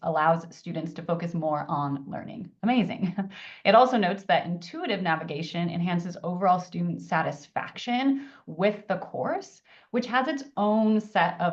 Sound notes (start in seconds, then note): 3.0 laughs